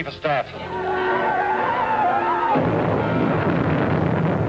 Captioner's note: saucer squealing